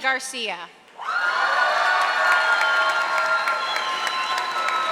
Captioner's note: audience applauding